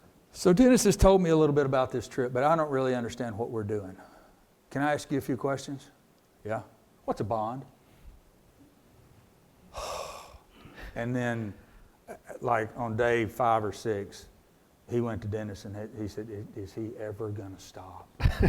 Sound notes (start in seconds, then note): 9.7 sighs